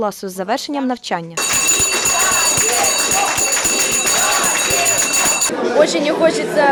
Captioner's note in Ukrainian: Звучить шкільний дзвінок